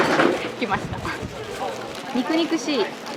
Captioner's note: laughs